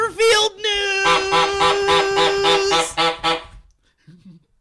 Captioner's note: honks horn 9 times